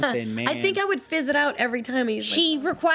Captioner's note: faintly speaking